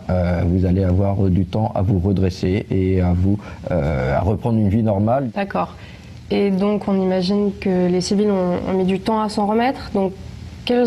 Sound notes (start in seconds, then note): 5.6 speaks in a foreign language